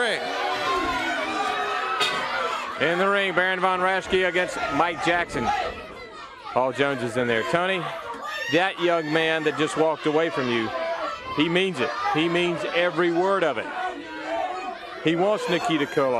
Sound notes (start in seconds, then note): 0.2 crowd cheering; 2.6 bell ringing